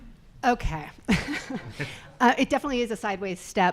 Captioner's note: laughs